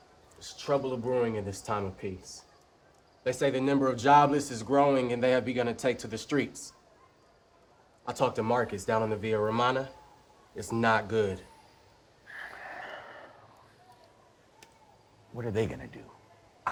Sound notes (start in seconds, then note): 12.2 sighs